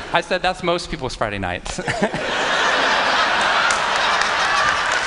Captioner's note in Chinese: 笑聲